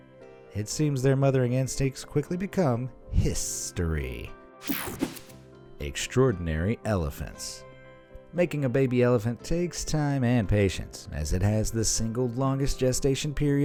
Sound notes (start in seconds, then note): 4.7 air whooshing